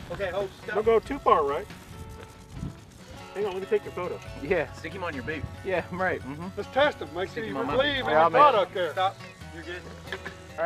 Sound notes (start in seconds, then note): 2.5 snake rattling